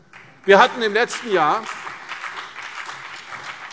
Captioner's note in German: Beifall CDU und BÜNDNIS 90/DIE GRÜNEN